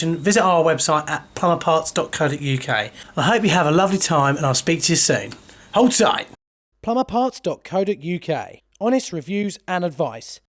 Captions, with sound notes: visit our website Plumberparts.co.uk I hope you have a lovely time and I'll speak to you soon. Hold tight! - [Voiceover] Plumberparts.co.uk Honest reviews and advice